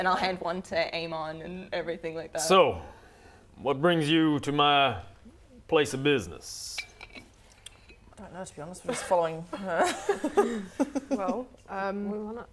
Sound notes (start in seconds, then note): 9.8 laughing